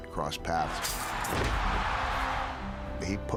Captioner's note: crowd roaring